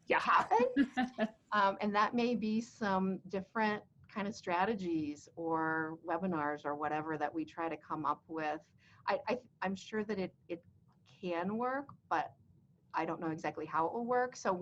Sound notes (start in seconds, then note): 0.7 both laughing